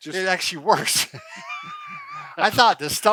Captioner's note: both laughs